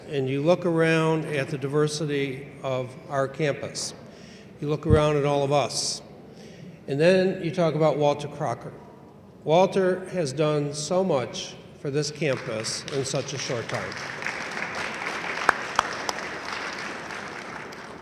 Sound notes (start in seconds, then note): 13.6 audience applauding in agreement